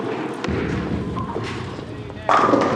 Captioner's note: pins crashing